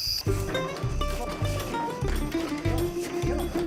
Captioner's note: rattling